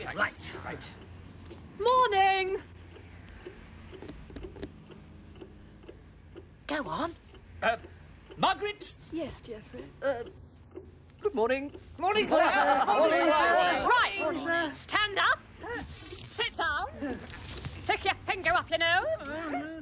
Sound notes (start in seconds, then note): 5.8 mantle clock ticks